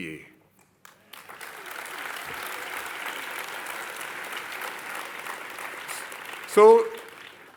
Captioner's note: applause